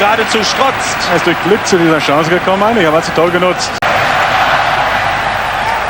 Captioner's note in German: jubel